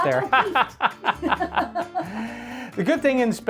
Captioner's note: both chuckling